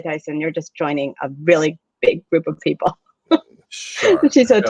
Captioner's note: laughs